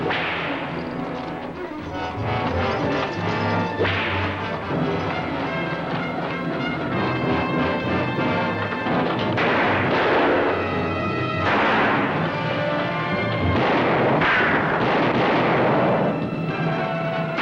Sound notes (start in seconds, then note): 0.0 whip cracks; 3.8 whip cracks; 9.4 guns fire; 13.4 guns fire